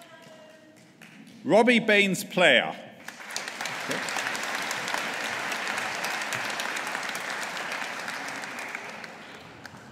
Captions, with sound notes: Robbie Baynes Player. (AUDIENCE APPLAUDING)